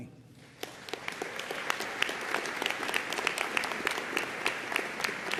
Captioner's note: audience applauding